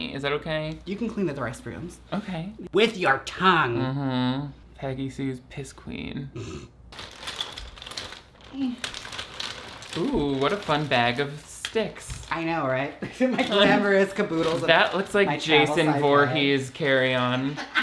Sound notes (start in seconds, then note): 6.9 objects rattle; 17.5 laughs